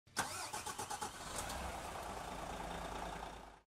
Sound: engine cranks

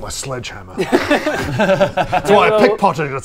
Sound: aggressive giggles

